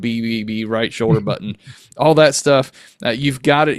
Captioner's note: chuckles